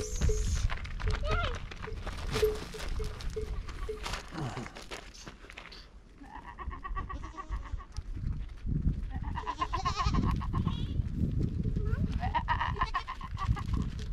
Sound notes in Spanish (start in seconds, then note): 1.7 campanas de cabra tintineando